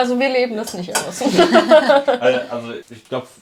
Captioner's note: Gelächter